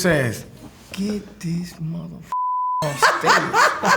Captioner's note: beep